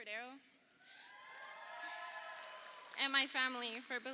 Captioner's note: crowd cheering